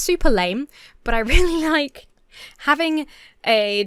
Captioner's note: chuckles